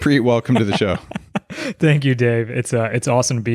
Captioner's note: chuckles